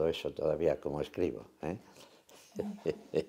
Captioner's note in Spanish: risas